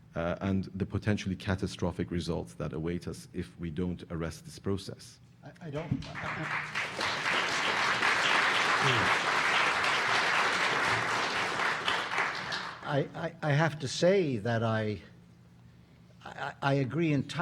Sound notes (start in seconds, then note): 5.8 audience applauding